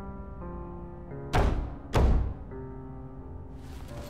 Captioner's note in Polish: Stukanie